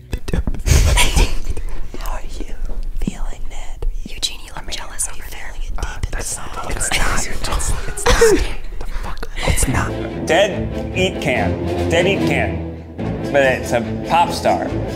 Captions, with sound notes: (whispering) - Eugene, you look jealous over there. - Uh, that’s not the look I’ve just… - I’ll give to you too. (laughs) - Get the fuck away. - Dead eat can. Dead eat can. But it’s a pop star?